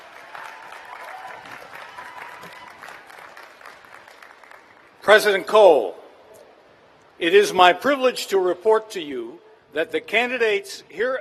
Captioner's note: cheers and applause